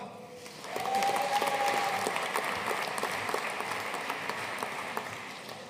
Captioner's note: audience cheering and applauding